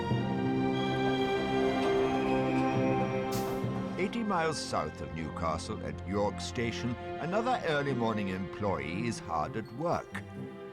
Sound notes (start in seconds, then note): 1.1 brakes squealing